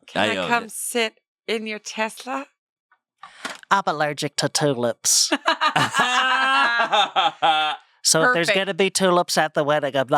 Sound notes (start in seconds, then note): 5.4 everyone laughs